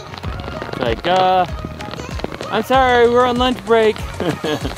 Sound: laughs

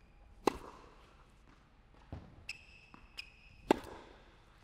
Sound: ball bouncing

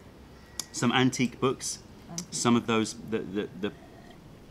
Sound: sips tea

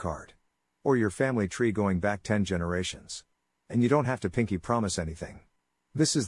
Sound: speaking French

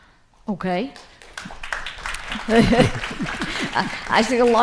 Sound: audience applauding

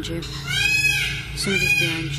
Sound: peacock squawks

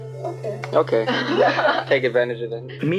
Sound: laughing

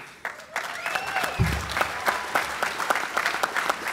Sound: applause

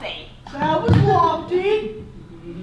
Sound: mockingly

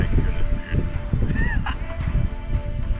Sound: laughs

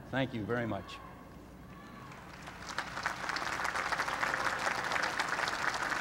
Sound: applause

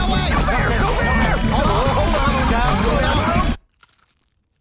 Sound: yelling

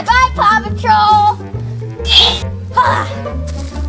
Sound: magical sound

